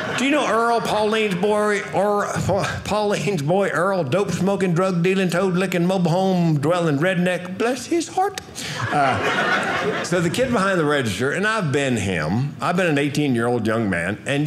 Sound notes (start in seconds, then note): 8.6 audience laughing